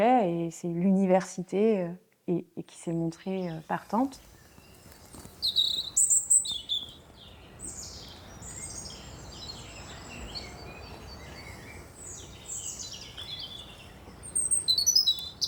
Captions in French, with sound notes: C'est l'université qui s'est montrée partante. [bruits d'oiseaux]